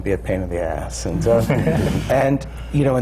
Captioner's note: laughter